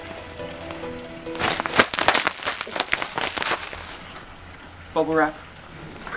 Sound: loud crumpling noises

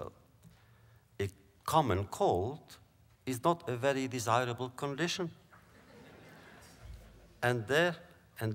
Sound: laughter

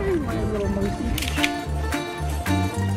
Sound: shutter clicks; bright music continues

